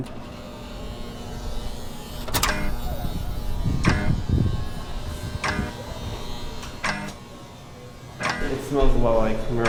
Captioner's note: buzzer